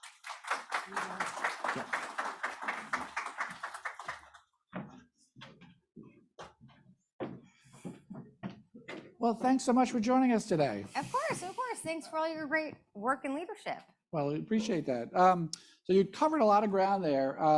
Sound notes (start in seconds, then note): 0.0 audience applauding; 4.9 footsteps thudding